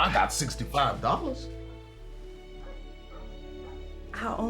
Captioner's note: dog barking in distance